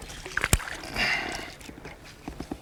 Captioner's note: splash